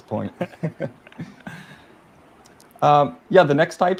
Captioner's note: laughing